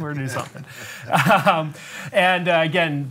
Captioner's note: laughs